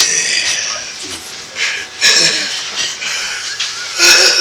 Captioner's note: breathing heavily